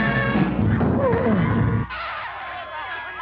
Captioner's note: woman grunts